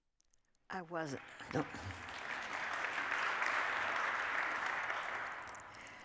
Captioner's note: applause